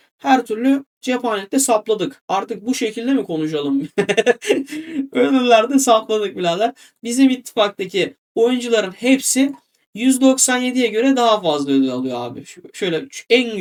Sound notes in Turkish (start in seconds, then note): 3.8 kahkaha